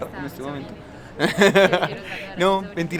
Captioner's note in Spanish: risas